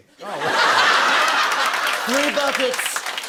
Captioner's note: laughter